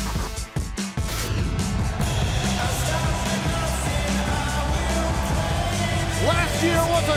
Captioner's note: crowd cheering